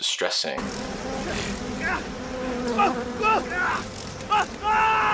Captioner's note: game audio; insect buzzing; screaming